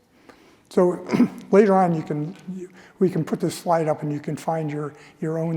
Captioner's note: cough